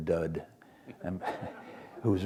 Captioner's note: laughter